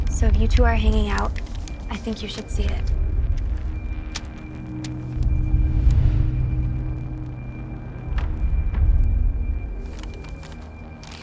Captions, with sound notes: So if you two are hanging out, I think you should see it. (ominous music) (papers ruffling)